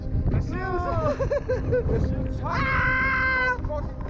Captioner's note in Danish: Both screaming